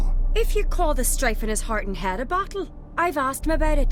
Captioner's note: none